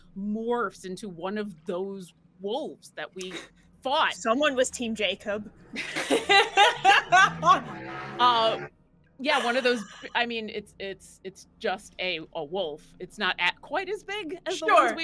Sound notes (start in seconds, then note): 5.7 laughing